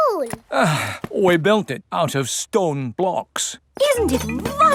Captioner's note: sighs